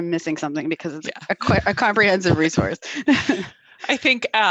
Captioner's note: giggles